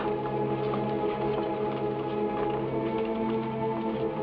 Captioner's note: shoes clack